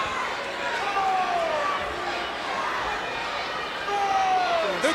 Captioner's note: crowd cheering